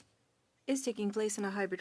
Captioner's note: speaking French